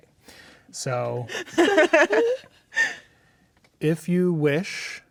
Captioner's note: laughing